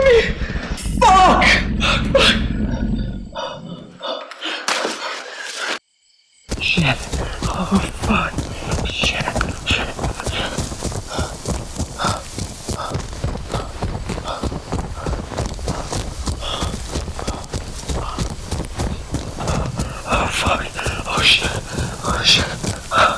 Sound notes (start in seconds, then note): 1.4 heavy, grunting breaths; 7.2 guttural growling; 20.0 heavy, grunting breaths; 21.6 guttural growling